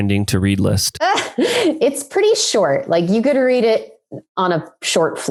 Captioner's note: laughs